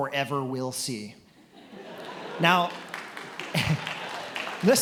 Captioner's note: attendees laughing and applauding